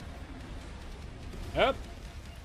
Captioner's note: increasingly worried dodging noises